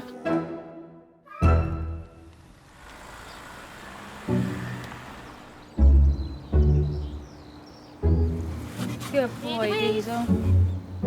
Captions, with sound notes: (gentle upbeat music) (car engine revving) (gentle upbeat music) (birds chirping) - Good boy Diesel. - Good boy.